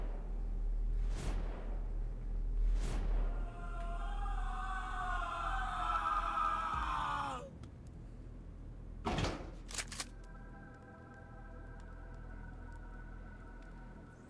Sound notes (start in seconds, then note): 3.3 Scavver screaming in pain